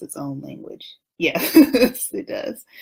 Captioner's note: laughs